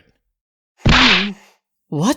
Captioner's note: grunt